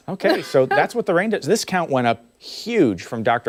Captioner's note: laughter